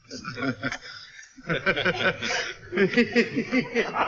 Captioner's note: men chuckle